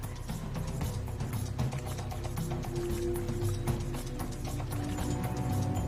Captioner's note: dramatic music; birds chirping